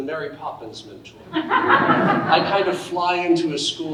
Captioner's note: audience laughing